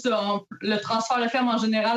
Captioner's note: speaking French